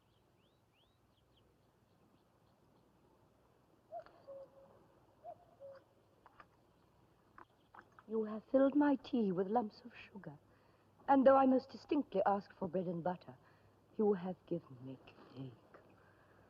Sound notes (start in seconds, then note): none